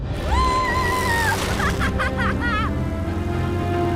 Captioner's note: laughing